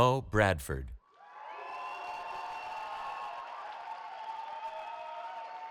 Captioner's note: cheering